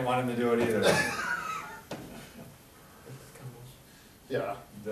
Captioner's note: laughing